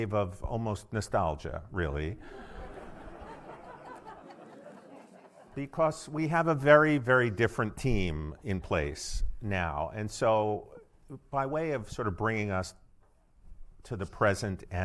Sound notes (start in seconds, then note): 2.2 audience laughing